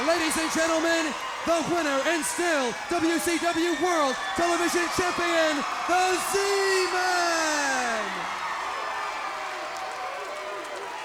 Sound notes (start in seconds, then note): 7.7 crowd cheering